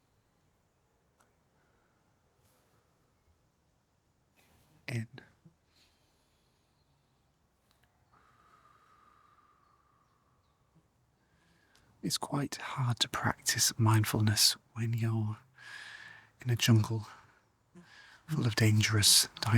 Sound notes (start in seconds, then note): 4.4 silence